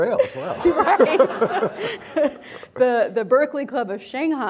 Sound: all laughing

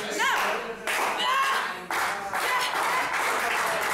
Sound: clapping

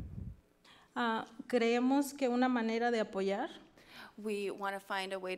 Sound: speaks foreign language

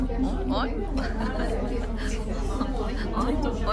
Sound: laughing

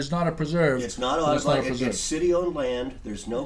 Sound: voiceover

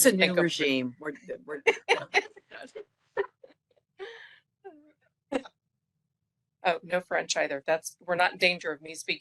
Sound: laughing

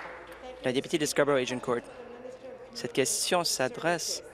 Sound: applause

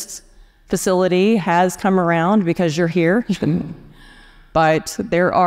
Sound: chuckles

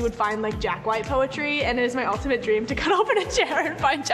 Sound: laughs

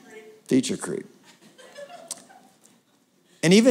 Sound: laughter

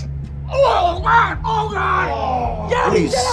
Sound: groaning

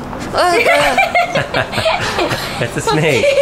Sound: laughter

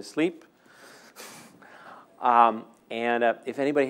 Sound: laughing

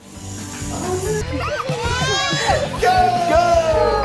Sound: laughter

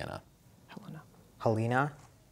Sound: whispering

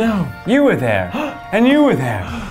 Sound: gasps

